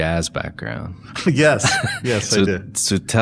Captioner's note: chuckles